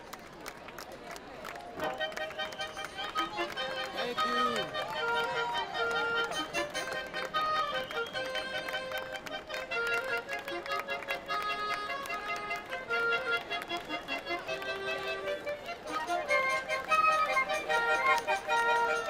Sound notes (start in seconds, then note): 1.6 light playful orchestral music; 6.0 applause; 6.0 light playful orchestral music